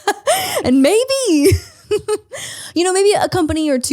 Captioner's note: laughs